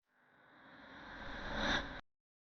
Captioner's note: disembodied whispering